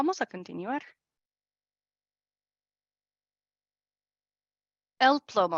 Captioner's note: silencio